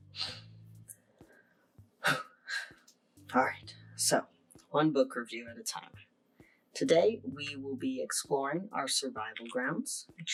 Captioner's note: exhales